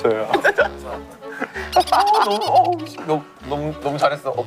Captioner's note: laughing